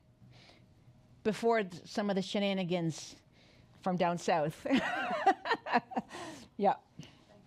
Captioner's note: laughs